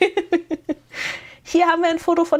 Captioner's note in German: gelächter